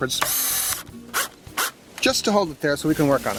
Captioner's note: drilling